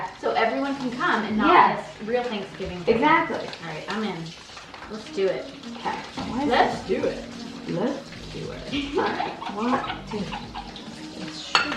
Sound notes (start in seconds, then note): 6.2 deepening voice; 8.7 laughing